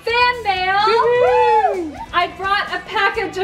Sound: all cheering

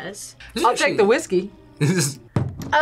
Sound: chuckles

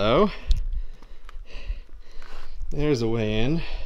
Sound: deep breathing

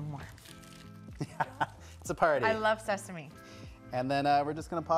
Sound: laughs

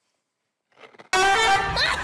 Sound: Crunch

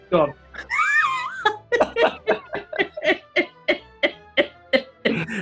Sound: laughter

